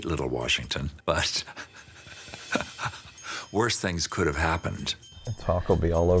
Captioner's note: laughs